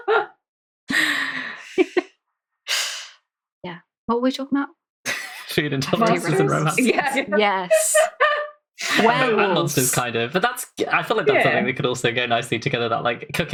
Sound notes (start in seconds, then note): 5.1 laughing